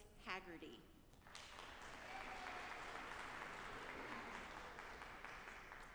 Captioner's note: audience applauding